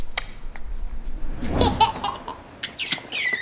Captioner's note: wooshing; laughing loudly